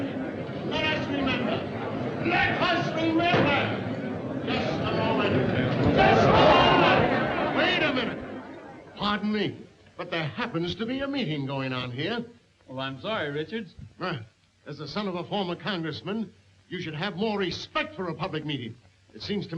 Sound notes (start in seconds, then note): 6.6 all shouting